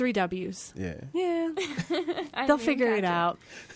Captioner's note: laughs